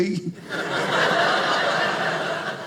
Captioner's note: audience laughing